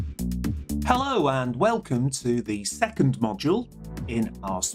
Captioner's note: voiceover